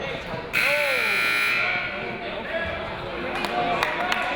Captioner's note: buzzer buzzing